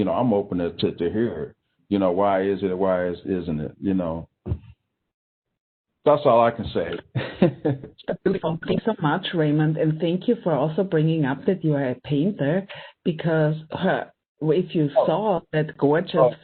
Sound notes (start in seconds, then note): 8.1 laughing